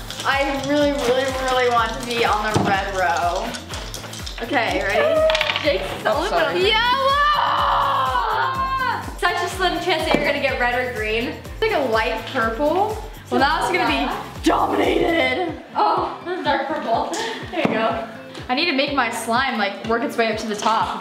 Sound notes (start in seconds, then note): 2.8 jangling; 5.6 clanking; 7.6 annoyingly sighing